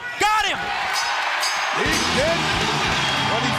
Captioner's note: bell ringing